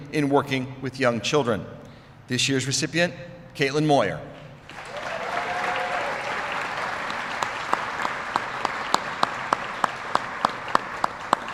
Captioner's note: applause